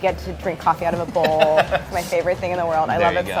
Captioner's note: laughing